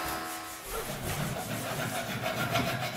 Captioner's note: scraping noise